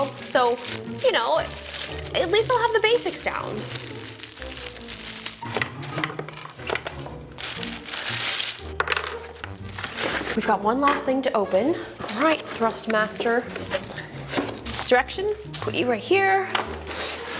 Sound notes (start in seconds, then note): 3.6 plastic rustles; 7.5 plastic rustles; 8.9 plastic piece clatters